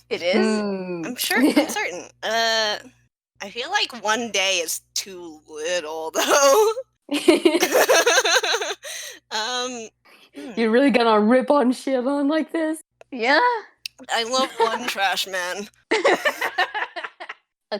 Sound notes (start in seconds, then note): 7.4 laughs